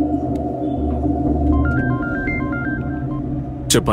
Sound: phone Ringing

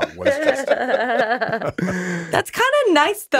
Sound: Justin and Liz chuckling

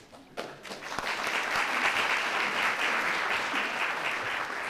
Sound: audience applauding

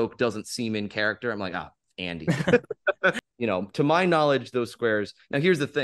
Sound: laughs

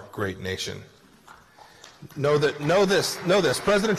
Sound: applause

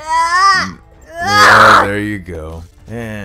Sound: yells

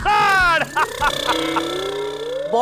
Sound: laughing

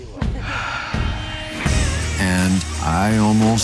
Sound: exhales deeply

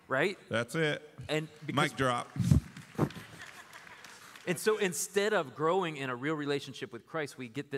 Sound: applause

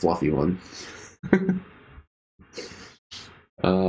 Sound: chuckling

